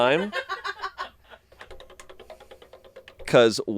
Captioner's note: crew laughing; wheel clicking